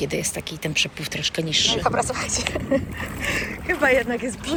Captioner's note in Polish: śmiech